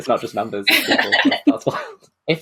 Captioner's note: laughs